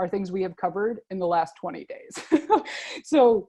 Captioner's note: laughs